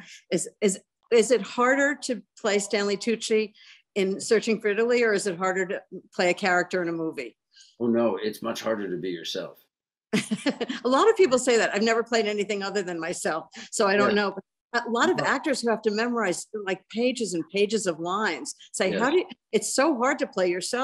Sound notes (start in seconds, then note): 10.2 laughs